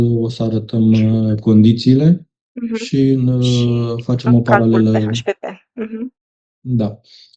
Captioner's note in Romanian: voce dreasă